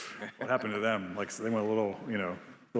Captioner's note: Biz laughing